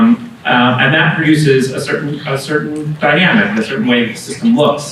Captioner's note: women whispering